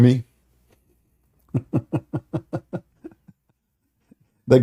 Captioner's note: Ketawa